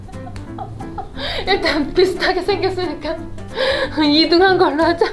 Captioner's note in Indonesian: tertawa